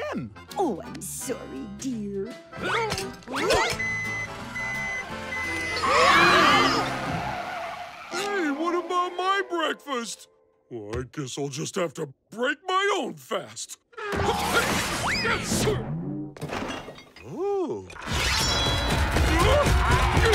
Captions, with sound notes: Ooh, I'm sorry, dear. [beeping] [screaming] [tires screeching] Hey, what about my breakfast? Well, I guess I'll just have to break my own fast. [grunting] Ooh. [shrieking]